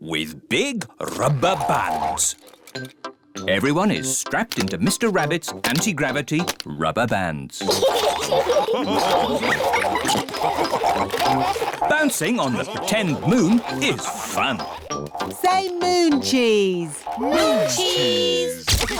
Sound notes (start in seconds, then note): 7.6 all laugh